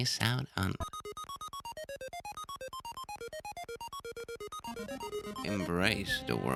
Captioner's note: blip-blop